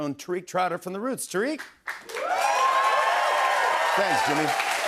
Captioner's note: cheers and applause